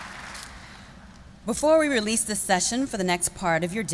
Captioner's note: applause